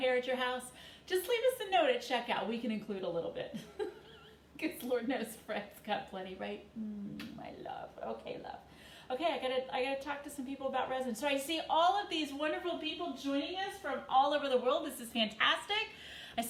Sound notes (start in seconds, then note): 3.6 chuckles; 6.9 smooches